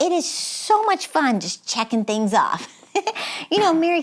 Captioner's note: giggles